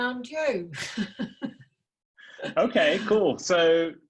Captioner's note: laughs